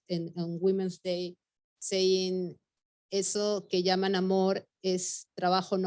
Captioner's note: speaking Spanish